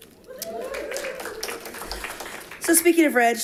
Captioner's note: audience applauding